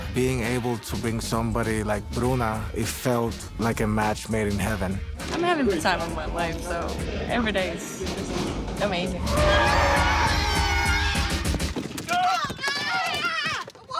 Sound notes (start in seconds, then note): 9.2 tires screeching; 9.3 screaming